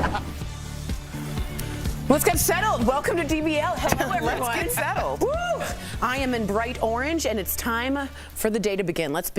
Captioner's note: laughter